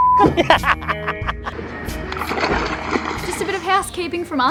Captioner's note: laughter